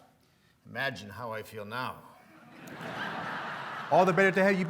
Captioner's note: laughter